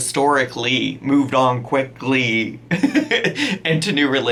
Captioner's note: laughs